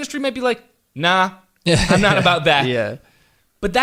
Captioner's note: laughter